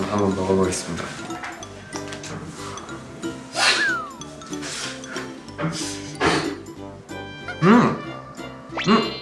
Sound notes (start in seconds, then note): 3.5 slurp